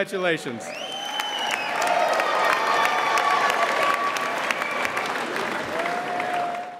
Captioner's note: audience cheering and applauding